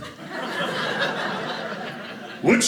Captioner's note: audience laughing